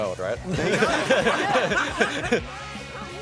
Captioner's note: laughter